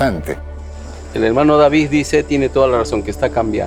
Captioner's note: speaking spanish